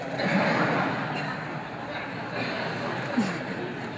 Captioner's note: audience laughs